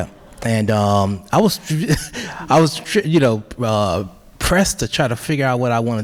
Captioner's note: chuckles